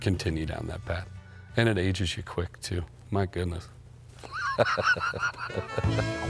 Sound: laughs; horns playing

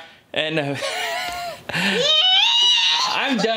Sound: laughing

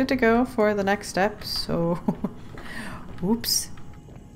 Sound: laughs

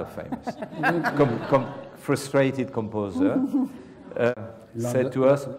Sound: laugh

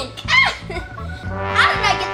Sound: assistant laughing

